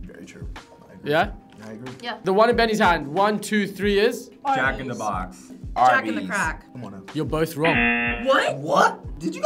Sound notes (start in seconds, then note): 7.6 buzzer blares